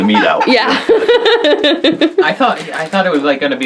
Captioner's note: laughs